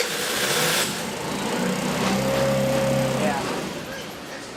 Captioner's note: engine cranking; engine starts